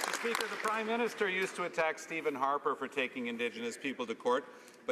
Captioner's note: some Applause